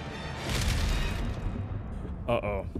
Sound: lightning crashing

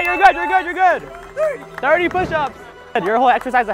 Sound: crowd clapping hands; smooth electronic music

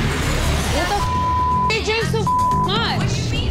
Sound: beep

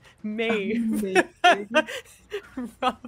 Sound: laughs

